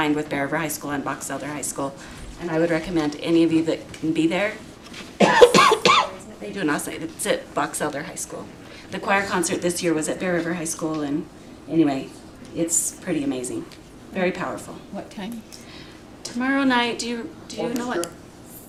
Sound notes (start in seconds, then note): 5.2 cough